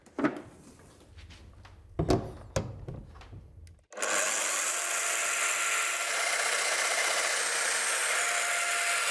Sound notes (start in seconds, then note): 3.9 machine whirring